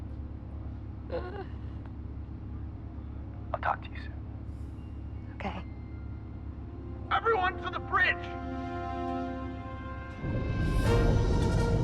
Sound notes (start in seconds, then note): 7.0 man on intercom